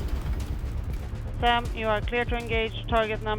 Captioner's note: intense music continues; radio Voice